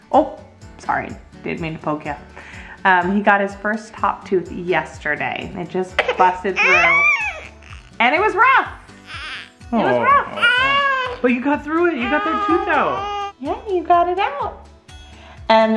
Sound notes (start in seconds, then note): 6.5 crying